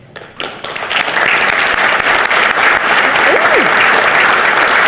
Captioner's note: participants clap